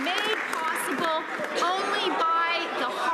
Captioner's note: some Applause